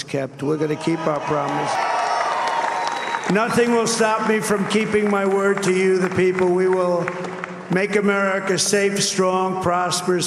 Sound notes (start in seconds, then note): 2.1 cheers and applause